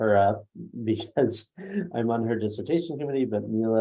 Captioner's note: laughs